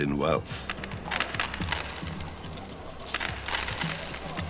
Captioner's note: coins clatter